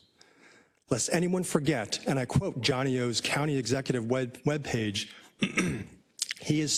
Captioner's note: cough